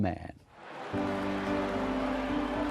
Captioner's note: cheering; soft music